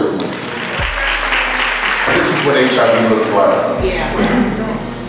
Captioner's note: applause